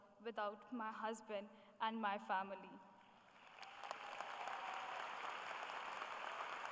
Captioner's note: applause